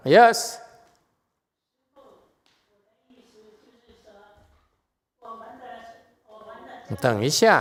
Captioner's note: chinese person speaking